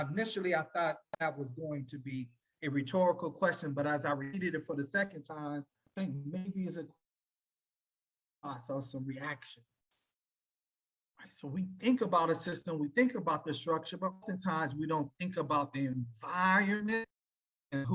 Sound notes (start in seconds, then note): 7.0 audio cuts out